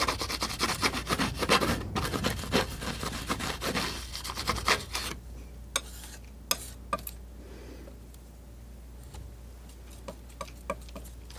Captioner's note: scratching